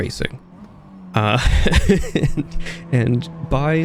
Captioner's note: laughs